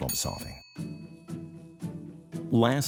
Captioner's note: bell dinging; light upbeat music